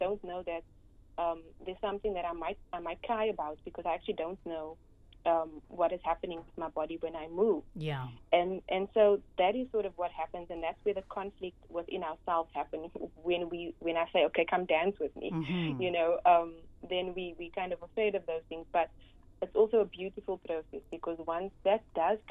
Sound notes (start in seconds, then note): 15.2 hm